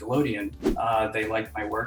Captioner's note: air whooshing